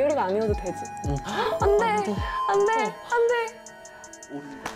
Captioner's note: unfortunately, the bell marking the end of 10 minutes rings